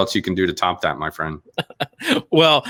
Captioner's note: laughing